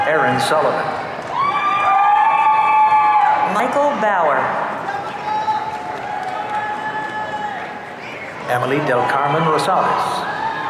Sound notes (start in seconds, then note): 1.2 audience cheering